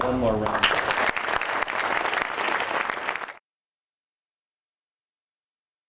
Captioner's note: applause